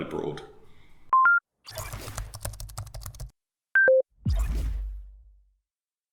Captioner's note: beep and typing keyboard